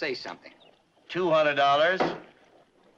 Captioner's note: gavel bangs